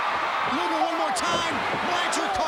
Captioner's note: crowd cheering